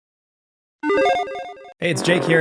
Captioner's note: electronic chiming